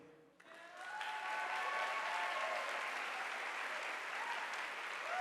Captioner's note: audience applauding